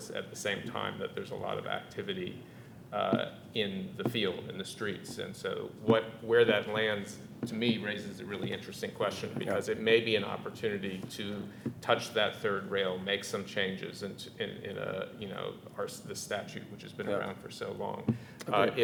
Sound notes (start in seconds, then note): none